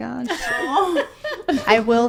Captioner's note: people laughing